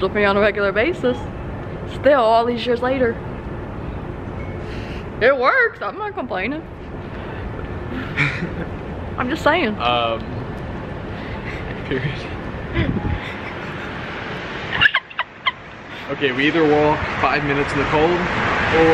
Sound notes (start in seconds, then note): 14.7 giggles